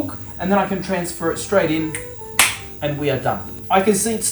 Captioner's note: snaps, claps